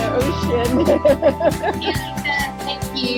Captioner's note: laughs